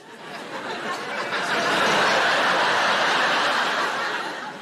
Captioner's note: audience laughing